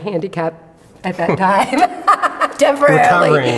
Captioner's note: laughs